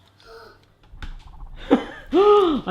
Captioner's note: gasp; laughing